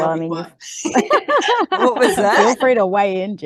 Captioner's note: everyone is laughing